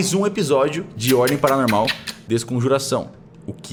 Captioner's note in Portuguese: Barulho de beijo